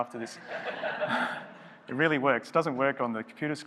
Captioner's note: laughing